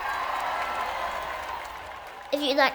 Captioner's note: crowd cheering